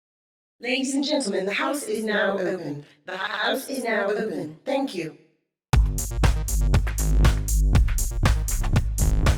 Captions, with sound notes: - [Feminine Voice] Ladies and gentlemen, the house is now open. The house is now open. Thank you. (upbeat electronic music)